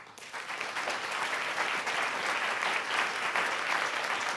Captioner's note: audience applauding